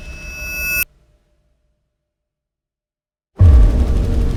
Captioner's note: high-pitched whine rings; dark dramatic music